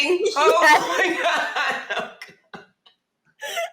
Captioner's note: women laughing